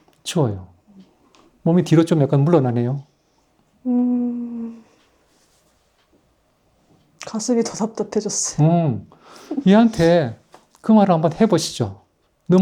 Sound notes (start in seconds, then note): 9.4 laughs